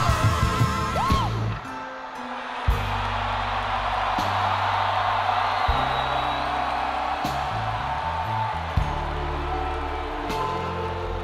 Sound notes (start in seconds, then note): 5.5 crowd Cheering